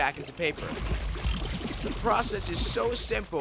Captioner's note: squelching